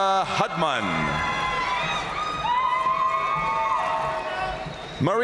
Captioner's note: audience cheering and applauding